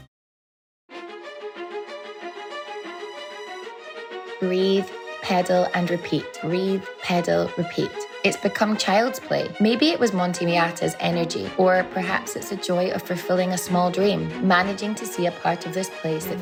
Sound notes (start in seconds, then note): none